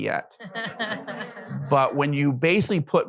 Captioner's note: audience laughs